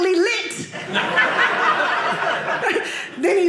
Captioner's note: audience laughing